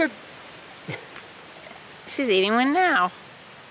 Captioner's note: laughing